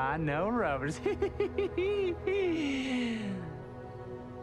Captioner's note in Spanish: Risas